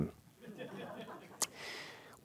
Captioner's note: laughter